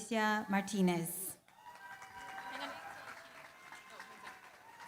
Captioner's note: applause